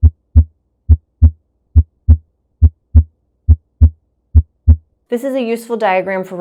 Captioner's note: heart beating